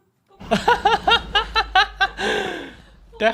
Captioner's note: laughter